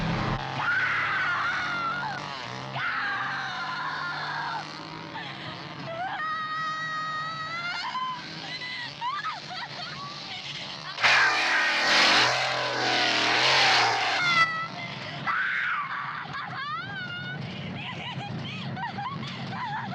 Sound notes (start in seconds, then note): 5.9 screams